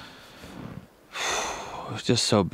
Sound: sighs

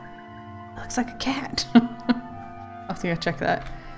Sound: laughs

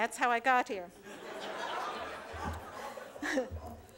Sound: laughter

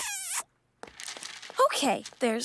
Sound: kissing

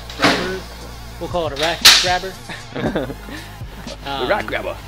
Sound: laughs

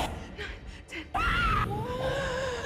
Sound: Zara screaming; Zara gasping

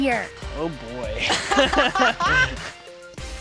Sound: laughing

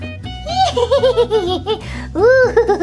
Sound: laughs evilly

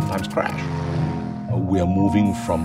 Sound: plane buzzing

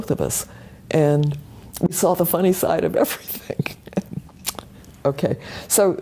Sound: laugh

